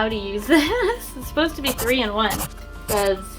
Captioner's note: giggles